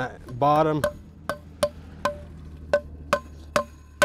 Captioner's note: hammer clanging